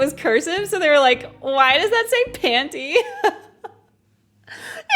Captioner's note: laughs